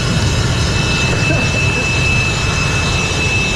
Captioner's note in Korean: 기침